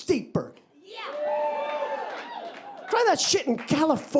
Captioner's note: audience cheering and applauding